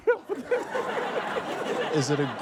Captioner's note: laughs; laughter